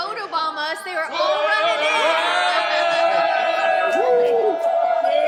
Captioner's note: motley crew cheering